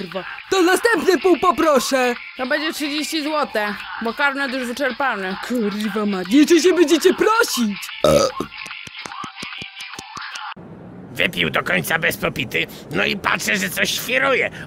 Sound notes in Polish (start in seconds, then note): 8.0 beknięcie